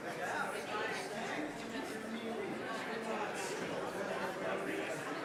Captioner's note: indistinct audience chatter